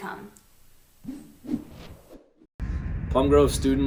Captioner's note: whooshing